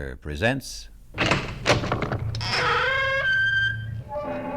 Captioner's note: door opens, creaks